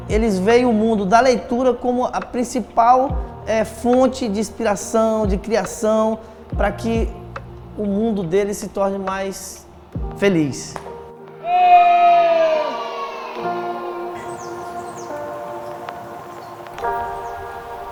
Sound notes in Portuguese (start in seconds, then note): 11.1 trilha sonora esperançosa; 11.4 crianças comemorando; 13.3 trilha sonora esperançosa